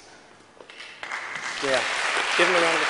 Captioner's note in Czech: potlesk